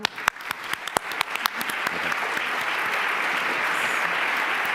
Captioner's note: applause